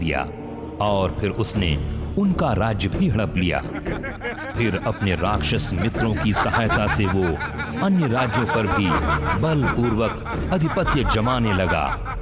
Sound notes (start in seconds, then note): 3.5 everyone's laughing